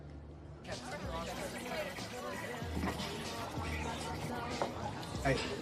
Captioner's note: people chattering